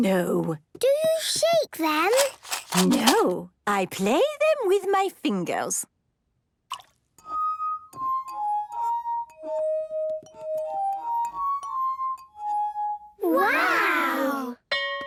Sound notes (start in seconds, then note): 6.7 glasses vibrate melodically; 6.7 water drips